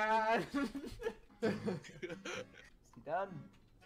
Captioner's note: laughter